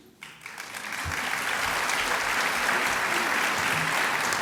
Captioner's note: applause